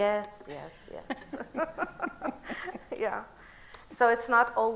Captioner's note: both laughing